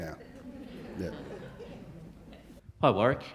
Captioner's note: audience laughing